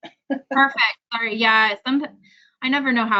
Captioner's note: laughs